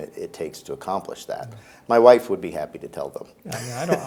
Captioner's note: laughs